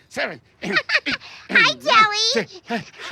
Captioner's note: laughs